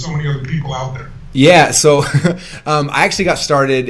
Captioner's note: laughs